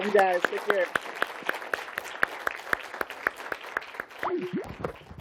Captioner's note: applause